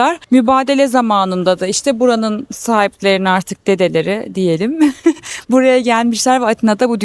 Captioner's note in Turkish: kahkaha